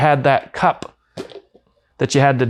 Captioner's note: lid popping